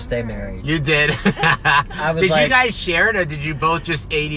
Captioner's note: laughs